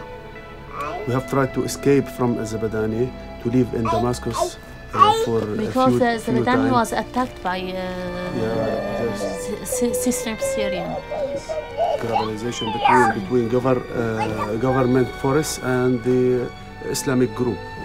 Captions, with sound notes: we have tried to escape from Zabadani, to live in Damscus (child babbling) for few times. - Because Zabadani was attacked by suspect Syrian. - Mobilization between government force and the Islamic group.